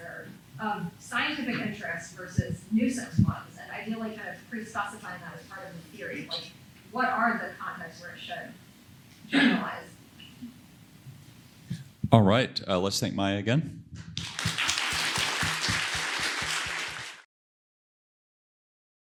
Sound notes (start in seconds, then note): 14.1 applause